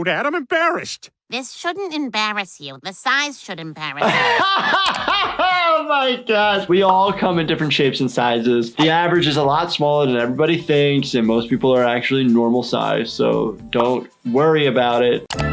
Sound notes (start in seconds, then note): 4.0 laughs